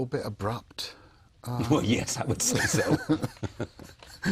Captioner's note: laughs; both laugh